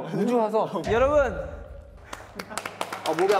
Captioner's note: clap; clapping